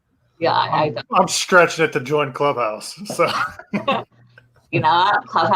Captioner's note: laughs